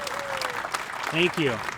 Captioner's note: applause